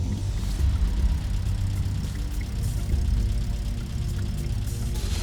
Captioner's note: car engine whirring